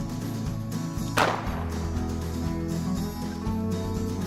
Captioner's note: gun shots